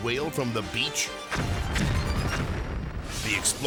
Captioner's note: whale explodes